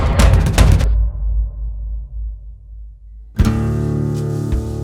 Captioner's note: guns firing